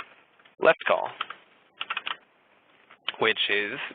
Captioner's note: keyboard clicking